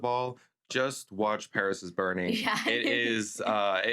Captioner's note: laughs